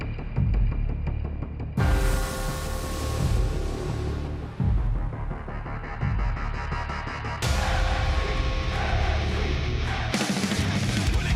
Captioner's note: crowd cheering